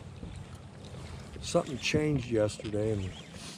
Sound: rod whipping

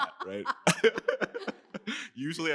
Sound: laughter

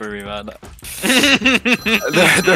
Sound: men laugh

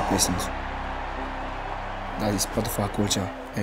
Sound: crowd cheering

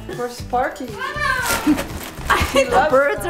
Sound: chuckles softly; laughs loudly

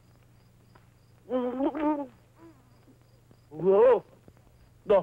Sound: babbles

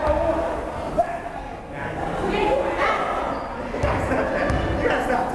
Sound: crowd chattering

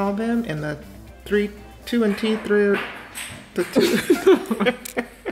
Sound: laughs

